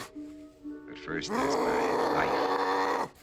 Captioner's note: angry growling